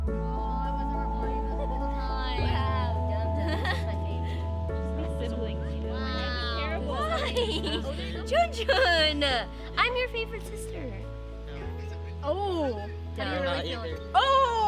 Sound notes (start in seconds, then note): 3.4 girl laughs